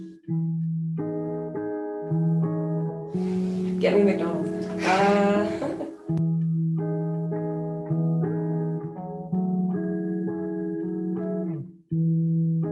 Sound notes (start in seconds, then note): 0.0 whimsical guitar music continues; 4.7 laughing; 9.4 whimsical guitar music continues